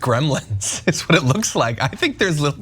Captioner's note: laugh